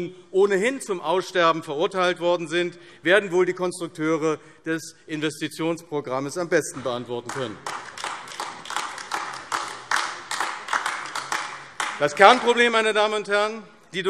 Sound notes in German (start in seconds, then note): 7.2 Beifall AfD